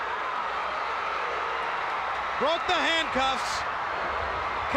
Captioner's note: crowd cheering